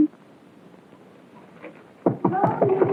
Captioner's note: knock on the door